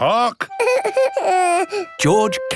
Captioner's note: whimpers